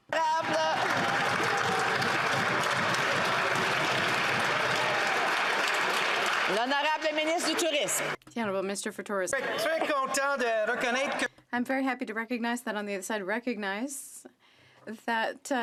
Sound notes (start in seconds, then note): 4.8 some Applause